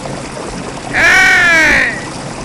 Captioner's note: Nandhi Deva Rishi shouting